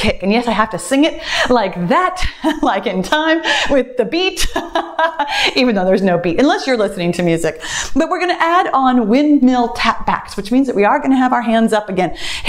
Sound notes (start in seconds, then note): 4.3 laughs